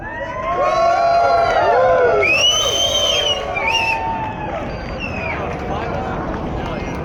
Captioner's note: cheering